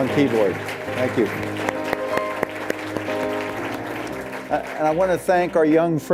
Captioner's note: applause